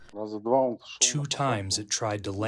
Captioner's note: through translator